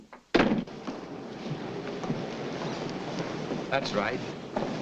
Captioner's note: door bangs shut